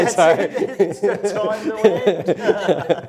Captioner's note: laughs